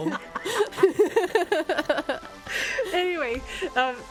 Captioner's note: laughs